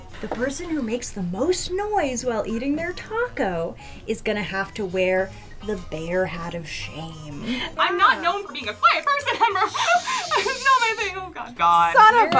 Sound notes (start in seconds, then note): 9.4 chuckling; 9.5 shushing